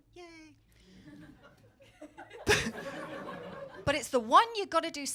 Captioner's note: crowd laughing